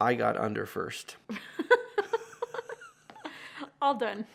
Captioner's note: laughs